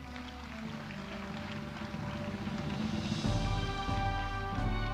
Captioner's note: audience applauding